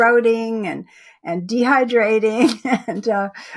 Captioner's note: chuckles